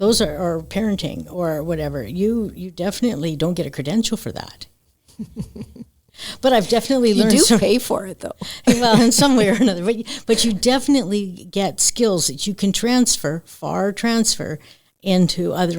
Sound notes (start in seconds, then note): 9.3 laughs